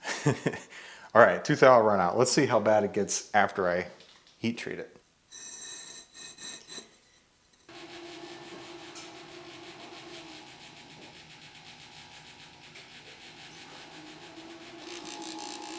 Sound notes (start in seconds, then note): 0.0 laughs; 5.5 slab scrapes against oven; 7.7 machine motor hums